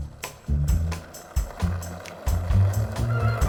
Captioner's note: tricycle rattling